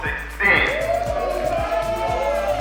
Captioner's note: cheering